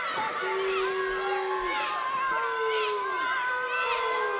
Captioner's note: crowd yelling